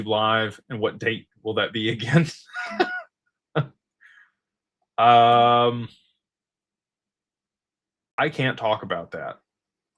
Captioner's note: laughter